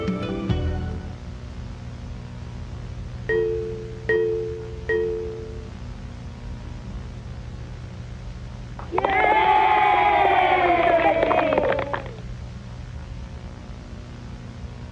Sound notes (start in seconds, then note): 3.3 computer chiming; 8.8 crowd cheering